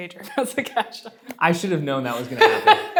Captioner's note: laughs